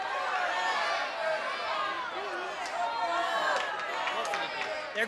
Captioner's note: audience Shouting